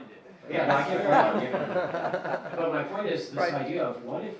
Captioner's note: laughing